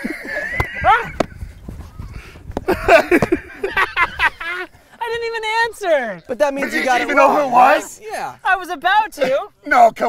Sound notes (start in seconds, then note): 2.6 laughter